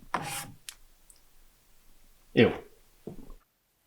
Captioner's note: finger swipes